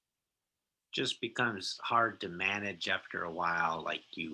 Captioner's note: bold Voice